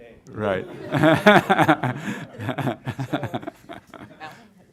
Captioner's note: laughter